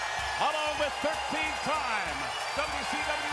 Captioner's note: crowd cheering